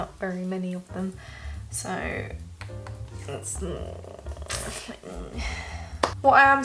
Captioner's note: inaudable struggle noises